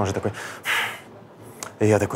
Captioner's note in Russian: напряжённо выдыхает